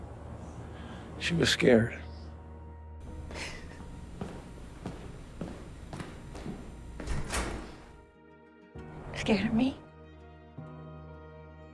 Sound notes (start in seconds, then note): 6.4 door opens